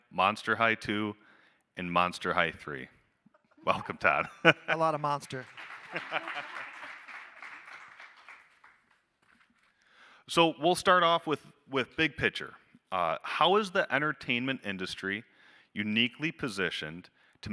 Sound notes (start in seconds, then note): 5.2 audience applauding; 5.4 panelists laughing